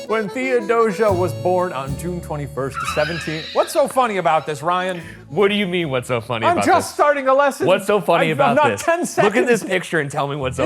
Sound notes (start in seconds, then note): 2.8 laughing